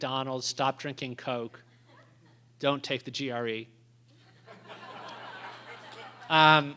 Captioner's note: laughter